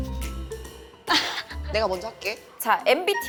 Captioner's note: laughing for some reason?